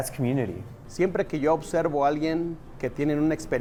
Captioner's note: in spanish